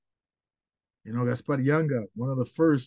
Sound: speaks in foreign language

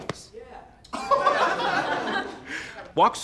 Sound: laughter

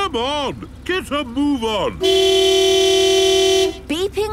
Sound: honking

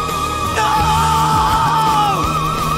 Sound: agonizing scream

